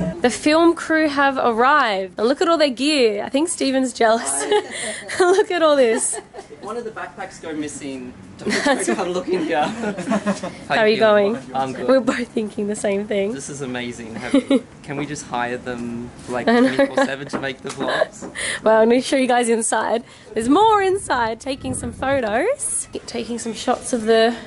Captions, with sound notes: The film crew have arrived and look at all their gear. I think Steven's jealous! Look at all this! If one of the backpacks go missing, start looking here! How are you going? I'm good. We're both thinking the same thing. This is amazing. Can we just hire them 24/7 to make the vlogs? (laughter) Well, let me show you guys inside. There's more inside, taking some photos. Taking some shots of the